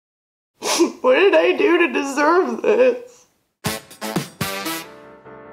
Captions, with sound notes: *sniff* What did I do to deserve this? *INTRO MUSIC*